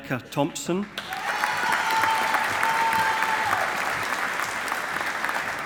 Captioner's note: audience applauding